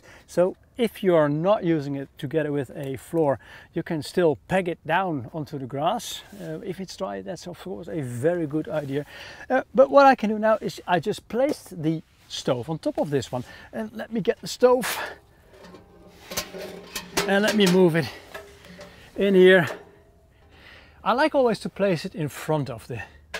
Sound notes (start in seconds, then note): 14.8 stove metals clinking